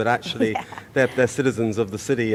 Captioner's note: laughs